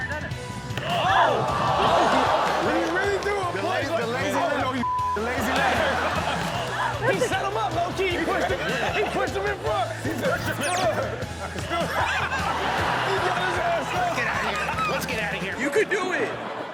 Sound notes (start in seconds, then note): 1.0 shouting; 5.2 laughter